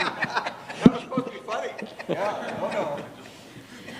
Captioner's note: laughter